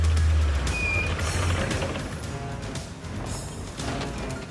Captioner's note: brakes squeaking